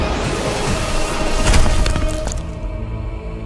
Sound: thuds

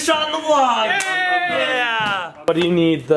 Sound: hands slap

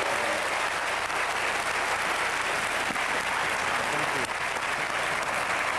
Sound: applause

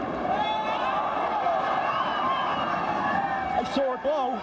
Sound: screaming

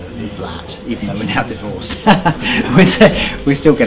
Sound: laughs

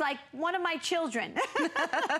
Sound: laughter

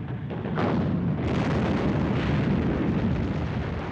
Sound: artillery firing

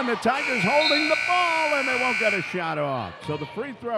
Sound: buzzer dings

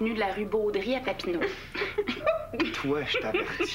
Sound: Rires

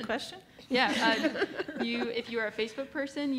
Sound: laughs

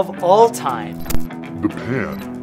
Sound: upbeat rock music; static crackling

